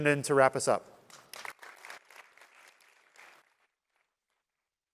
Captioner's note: applause